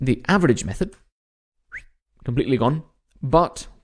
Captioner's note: instructor whistles